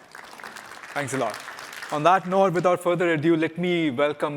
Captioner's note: applause